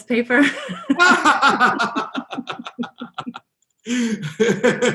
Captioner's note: both laugh